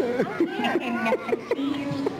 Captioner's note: laughter